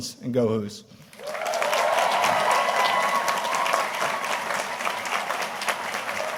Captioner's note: audience cheering and applauding